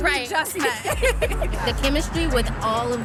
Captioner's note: laughing; both laughing happily